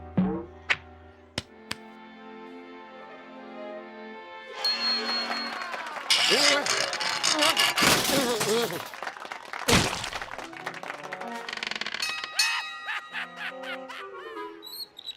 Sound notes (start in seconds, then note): 1.6 pat pat; 5.1 cheers and applause; 12.0 bell clangs